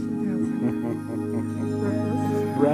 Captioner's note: laughing